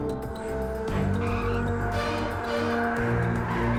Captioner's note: tires screech